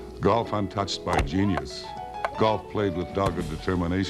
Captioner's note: ball ricocheting